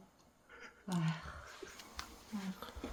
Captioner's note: sighs